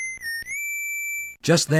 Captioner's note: whistle!